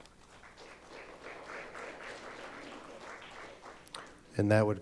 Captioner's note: audience applauding